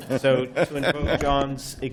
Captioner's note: laughter